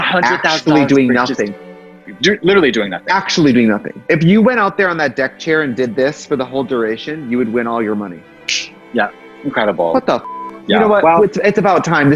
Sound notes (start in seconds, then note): 10.2 beep